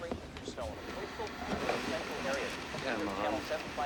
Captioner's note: static